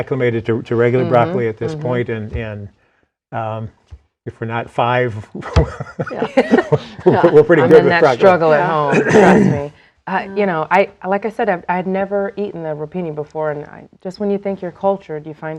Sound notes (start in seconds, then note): 10.0 laughing